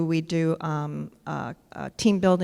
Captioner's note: none